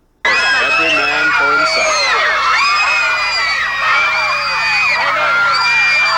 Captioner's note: screaming